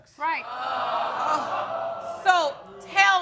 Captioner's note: audience exclaiming